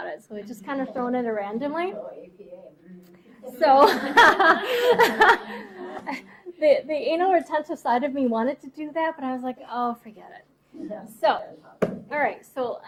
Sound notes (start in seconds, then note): 3.8 class laughing; 3.8 laughs loudly